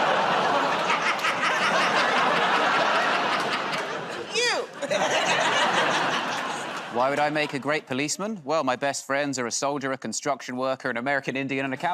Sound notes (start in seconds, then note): 1.3 laughter, audience "Oh"s; 5.3 laughs